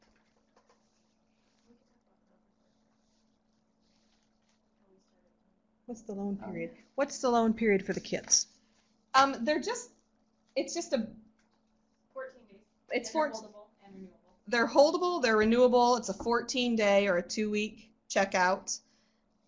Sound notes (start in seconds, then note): 10.8 background discussion